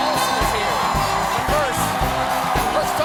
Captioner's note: cheers and applause